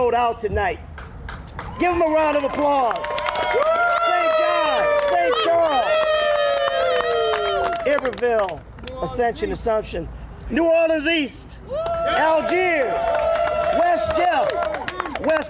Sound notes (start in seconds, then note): 8.9 applause